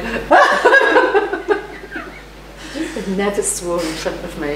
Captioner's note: laughs